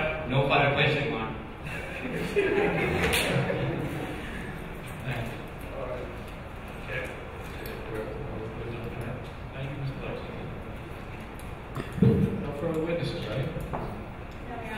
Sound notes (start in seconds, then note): 1.7 audience laughing